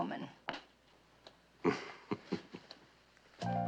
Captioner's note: chuckling